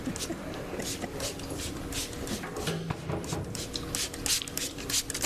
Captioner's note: liquid swishing